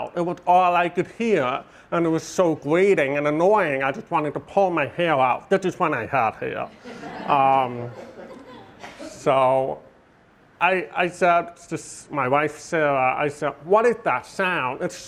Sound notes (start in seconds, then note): 6.6 audience laughing